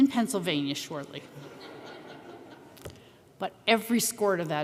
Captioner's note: chuckles